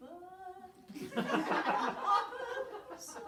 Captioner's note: loud audience laughter